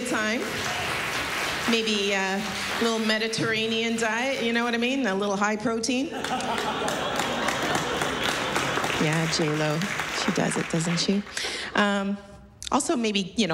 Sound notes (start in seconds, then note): 0.2 laughter, applause; 6.1 laughter